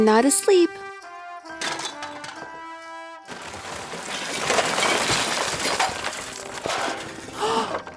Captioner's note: rustling sounds